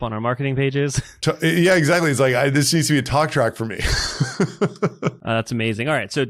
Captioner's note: laughs